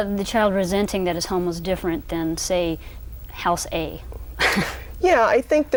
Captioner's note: laughs